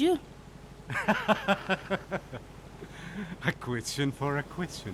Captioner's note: laughing